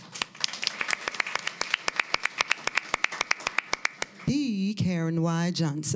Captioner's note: applause